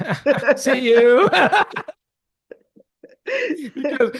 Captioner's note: laughs